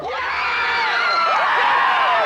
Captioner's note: cheering